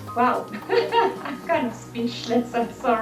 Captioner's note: laughter